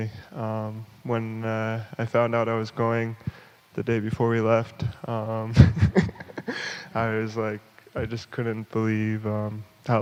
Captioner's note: laughs